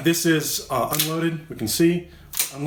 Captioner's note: gun cocks